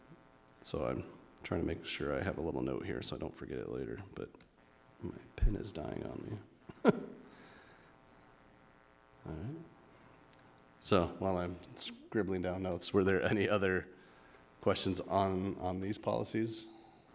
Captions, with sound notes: So I'm trying to make sure I have a little note here, so I don't forget it later, but my pen is dying on me. (chuckles) All right. So while I'm scribbling down notes, were there any other questions on these policies?